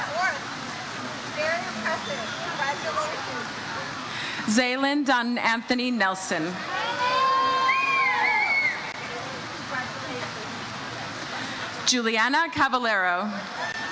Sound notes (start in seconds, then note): 6.7 audience cheers